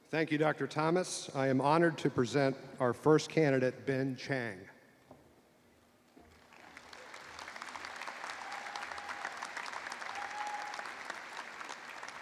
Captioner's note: applause